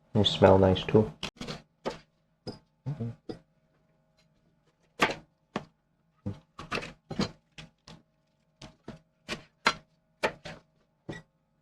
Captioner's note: knife cutting